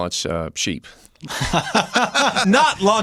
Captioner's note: laughter